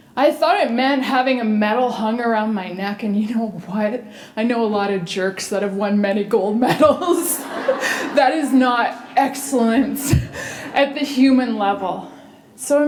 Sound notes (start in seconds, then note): 6.6 laughter